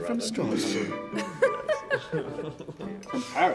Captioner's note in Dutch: vrouw giechelt